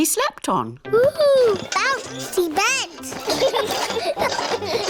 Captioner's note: children laugh